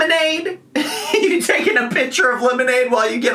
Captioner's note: laughs